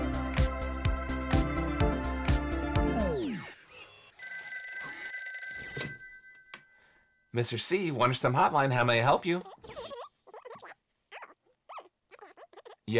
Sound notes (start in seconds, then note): 2.6 tone winds down; 4.1 phone rings